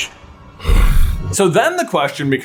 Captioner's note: agreeing grunt